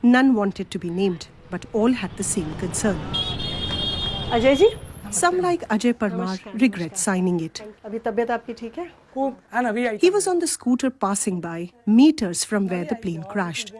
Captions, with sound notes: None wanted to be named, but all had the same concern. [horn honking] Ajayji? Some, like Ajay Parmar, regret signing it. [speaking Gujarati] He was on the scooter passing by, meters from where the plane crashed.